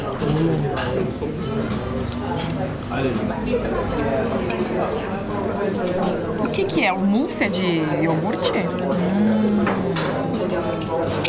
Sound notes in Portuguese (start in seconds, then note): 1.5 ambiência de restaurante